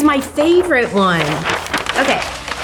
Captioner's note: paper rustling